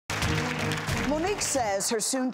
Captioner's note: applause; dramatic music